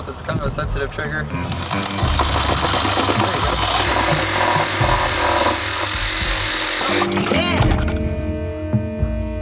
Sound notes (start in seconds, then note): 1.4 saw buzzing; 6.7 horn music